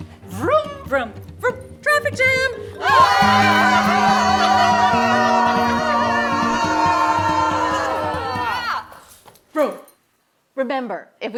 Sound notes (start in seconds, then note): 2.9 yelling